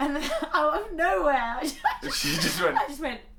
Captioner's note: laughs